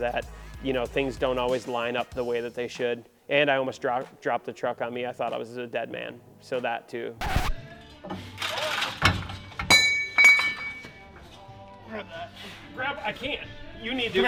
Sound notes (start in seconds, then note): 7.2 record scratching; 8.4 metal clanging